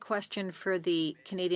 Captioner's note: speaking French